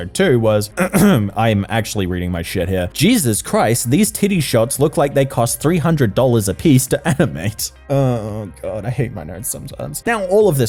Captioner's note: ahem